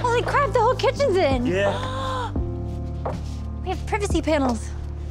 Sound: gasps

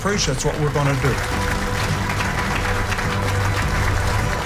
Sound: applause

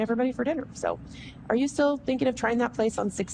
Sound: clear voice

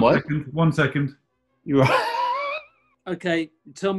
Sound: laughs

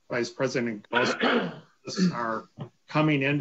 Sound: clears throat

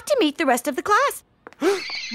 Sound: gasps

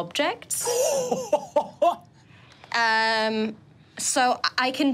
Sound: laughing

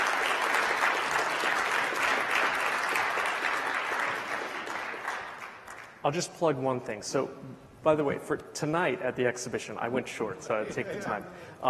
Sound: applause

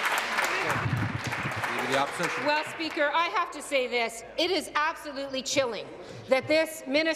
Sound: applause

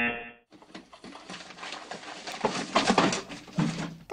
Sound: rejection buzzer; paper rustling

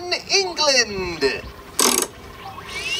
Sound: machine noises; crank sounds

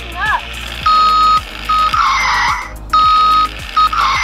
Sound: car beeping

